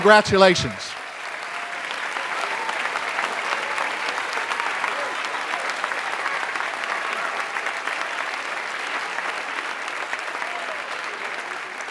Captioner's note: applause